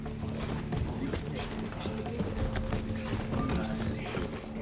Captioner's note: whispering